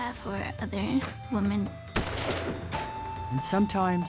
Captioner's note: fires